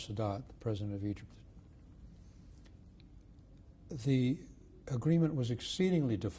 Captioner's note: pauses for 3 seconds